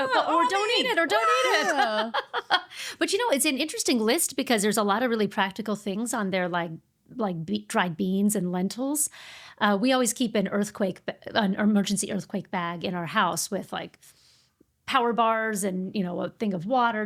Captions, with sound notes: or don't eat it, or don't eat it. (laughing) But you know, it's an interesting list because there's a lot of really practical things on there like dried beans and lentils. We always keep an earthquake, an emergency earthquake bag in our house with like power bars and a thing of water,